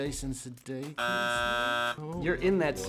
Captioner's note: buzzer buzzes